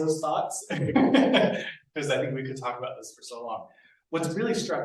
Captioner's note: laughs